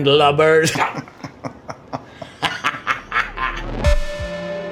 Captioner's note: Dell and Bob laughing; determined music